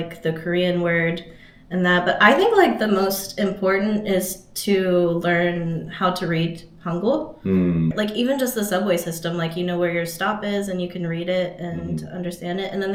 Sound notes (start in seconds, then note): 7.2 Korean